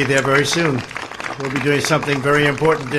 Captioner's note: applause